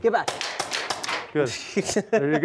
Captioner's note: gun fires; laughs